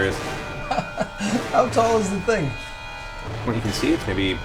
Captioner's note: laughs